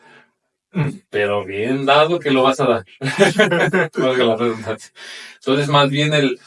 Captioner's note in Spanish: carraspeo; risas